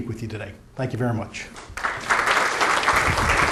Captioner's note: applause